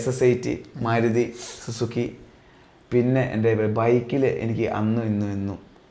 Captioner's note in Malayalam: ചീറ്റുന്നു